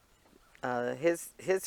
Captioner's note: laughing